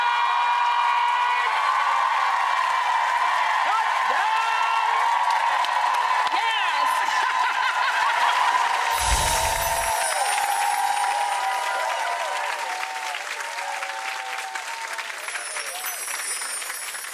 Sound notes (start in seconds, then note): 0.3 audience cheering and clapping; 7.5 laughs